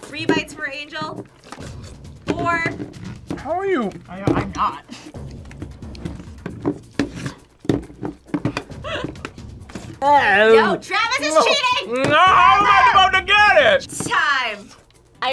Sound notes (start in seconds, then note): 8.6 laughs